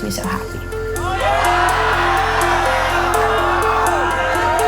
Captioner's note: team cheering